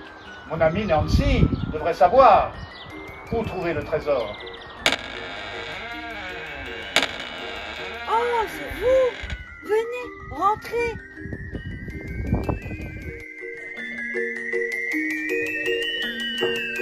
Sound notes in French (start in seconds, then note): 4.8 Door creaks; 12.8 Spooky music